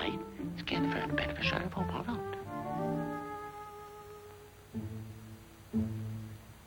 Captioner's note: gopher chattering conspiratorially; gentle tense music